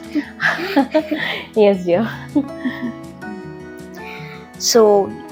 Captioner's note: laugh